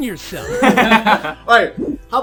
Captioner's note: laughter